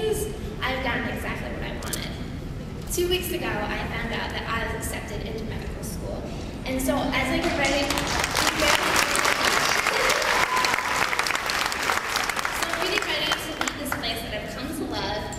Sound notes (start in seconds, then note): 7.4 applause